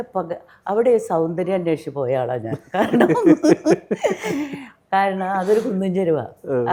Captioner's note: laughs